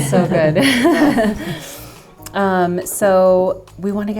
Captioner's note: people laughing